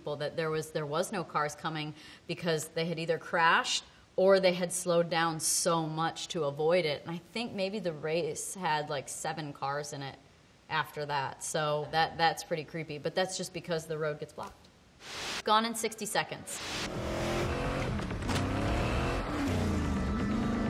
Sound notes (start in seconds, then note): 16.6 car engine roars